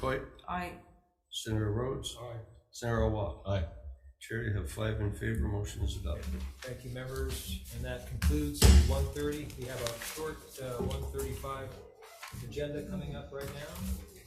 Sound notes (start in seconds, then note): 8.2 gavel bangs